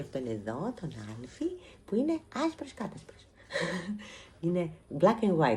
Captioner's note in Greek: γέλια